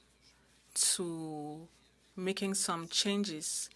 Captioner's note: speaking French